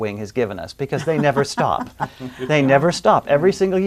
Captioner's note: laughing